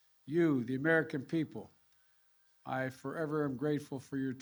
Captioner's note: none